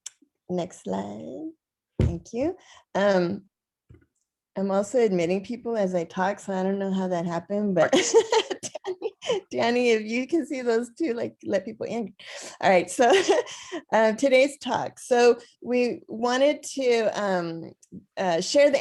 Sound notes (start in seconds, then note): 7.9 laughter